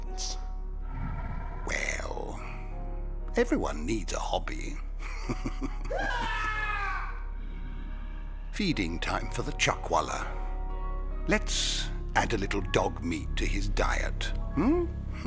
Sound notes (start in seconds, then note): 5.4 scream off screen